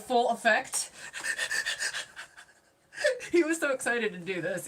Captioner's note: laughing